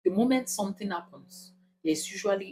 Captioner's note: paause